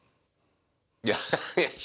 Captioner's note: laughter